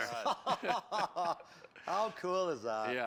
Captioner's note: laughs